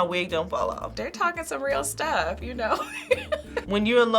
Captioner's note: laughs